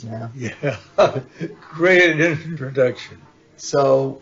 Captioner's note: laughs